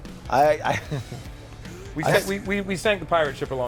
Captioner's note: laughs